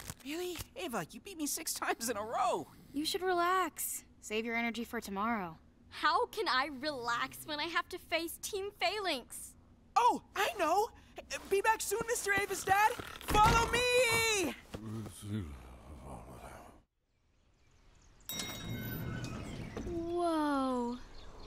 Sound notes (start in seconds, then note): 14.7 sleepy mumbling; 18.3 elevator chimes